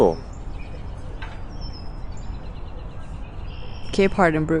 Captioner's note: birds twittering